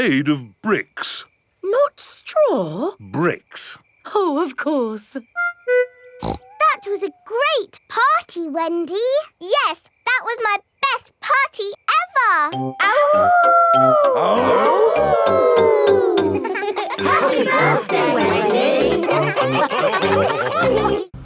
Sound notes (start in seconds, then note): 6.2 snorts; 13.9 howling; 15.1 all howling; 19.7 all laughing